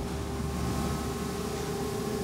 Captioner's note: machine whirring